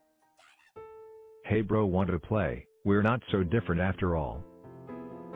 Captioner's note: oof